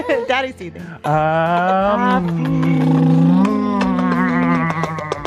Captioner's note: growl